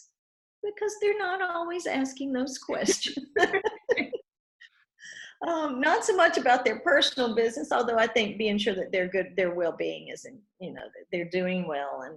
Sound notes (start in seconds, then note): 2.7 laughs